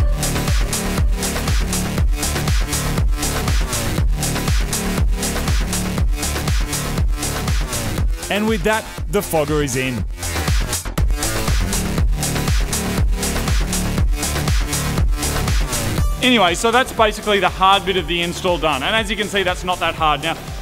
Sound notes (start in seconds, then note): 8.0 voice over; 10.1 electronic music